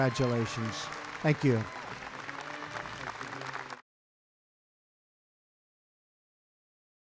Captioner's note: applause